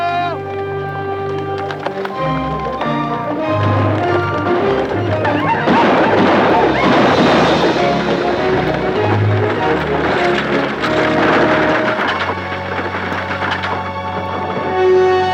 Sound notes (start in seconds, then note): 2.1 dramatic orchestral music; 5.6 Apaches howl; 5.6 guns fire